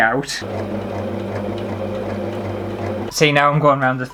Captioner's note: sewing Machine Motor